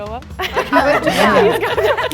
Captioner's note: group laughing